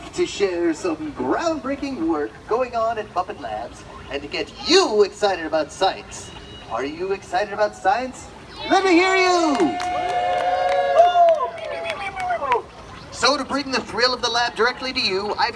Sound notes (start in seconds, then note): 8.7 audience cheers; 9.8 Beaker booes